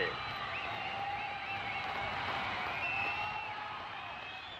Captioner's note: crowd cheers, whistles